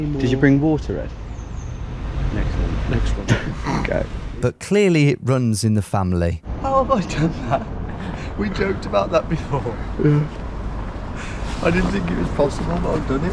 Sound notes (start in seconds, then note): 3.9 chuckles